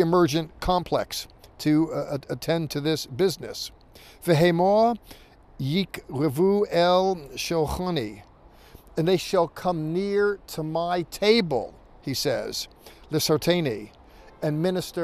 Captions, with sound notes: complex to attend to this business. [speaking in Hebrew] "And they shall come near to My table," he says, [speaking in Hebrew]